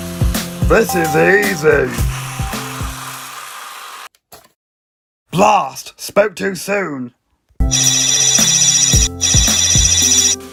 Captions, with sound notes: This is easy! [thump!] Blast, spoke too soon.